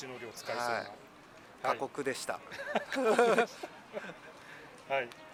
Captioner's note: laughs